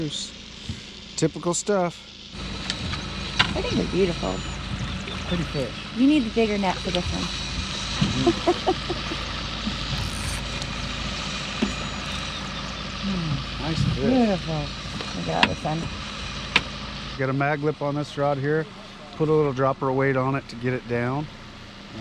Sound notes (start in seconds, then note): 8.0 chuckling; 9.8 reel spinning; 16.2 boat engine idling